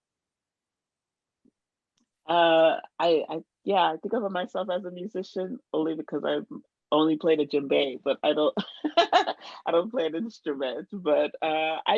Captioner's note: laughs